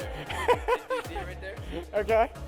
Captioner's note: laughing